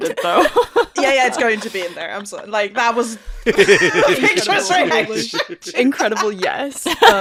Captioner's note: laughing